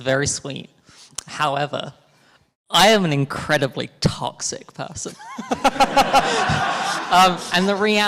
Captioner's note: all laughing